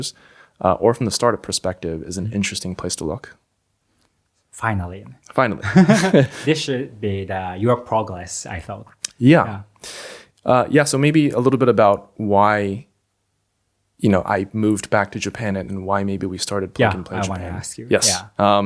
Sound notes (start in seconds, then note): 5.7 laughs